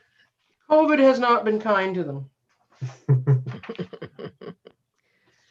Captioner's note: laughs